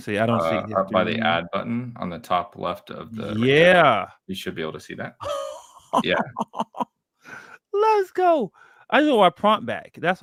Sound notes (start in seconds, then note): 5.2 laughs